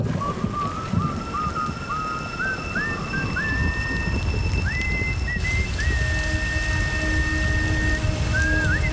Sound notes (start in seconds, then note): 0.0 sirens wailing; 1.1 tense music